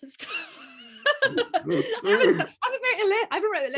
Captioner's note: laughing